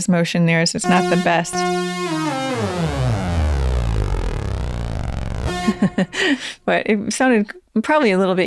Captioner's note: laughter